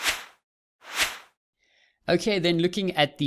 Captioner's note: air whooshes